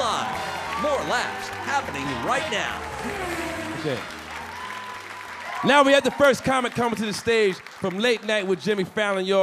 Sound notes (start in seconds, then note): 1.6 car whirring